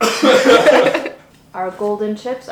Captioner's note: coughs; laughs